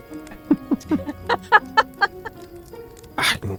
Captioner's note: laughter